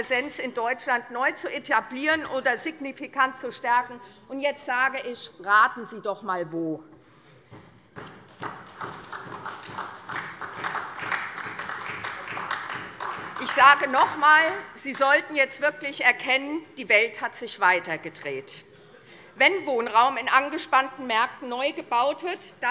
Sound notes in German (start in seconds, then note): 8.1 Beifall SPD